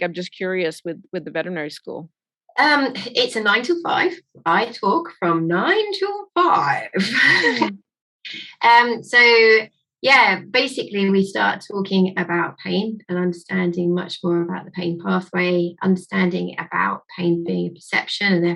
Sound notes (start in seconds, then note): 7.0 chuckling